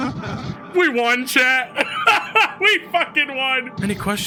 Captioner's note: laughs